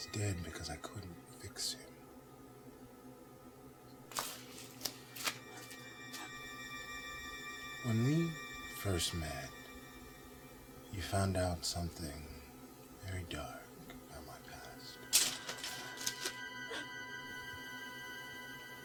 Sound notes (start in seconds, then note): none